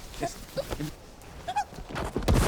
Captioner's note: squeals